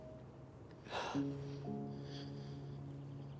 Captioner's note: Grace sighs